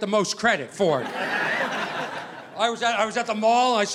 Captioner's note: audience laughing